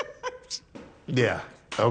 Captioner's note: laughs